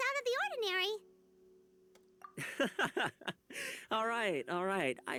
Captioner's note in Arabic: يضحك